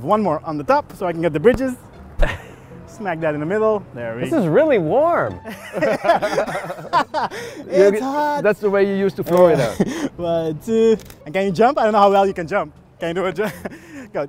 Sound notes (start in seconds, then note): 5.4 laughing